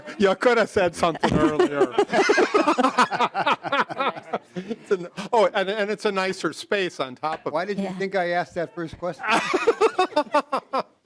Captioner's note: laughing